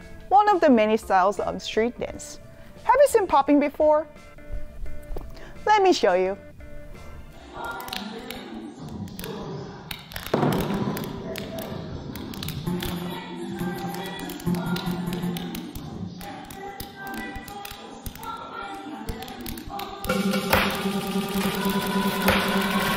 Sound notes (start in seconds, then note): 10.5 walls thud; 20.2 upbeat music